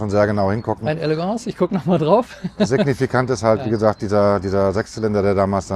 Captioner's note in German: gelächter